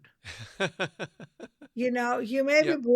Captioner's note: laughs